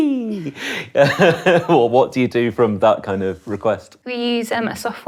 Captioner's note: chuckling